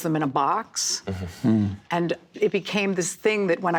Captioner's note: laughing